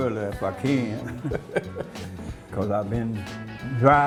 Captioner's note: laughing